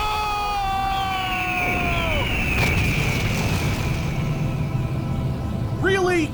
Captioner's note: hawk screeching